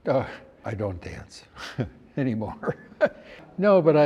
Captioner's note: laughs